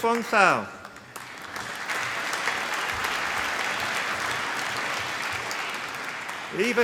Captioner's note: applause